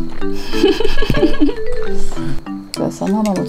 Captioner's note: laughing voice